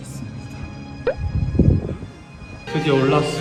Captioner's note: wind attack